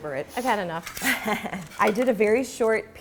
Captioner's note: laughs